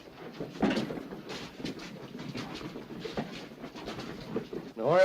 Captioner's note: sounds of struggling